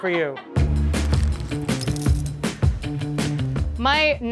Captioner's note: upbeat music; coins clinking